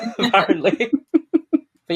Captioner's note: laughing; laughs